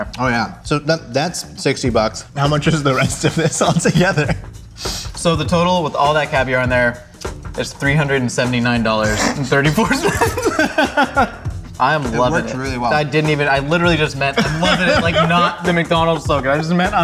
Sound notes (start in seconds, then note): 2.6 laughs; 9.8 both laughing